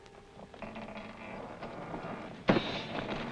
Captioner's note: doors creak; doors clang